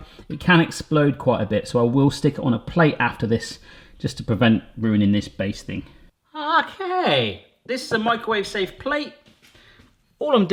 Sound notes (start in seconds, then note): none